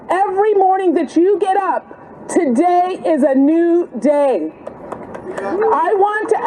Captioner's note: applause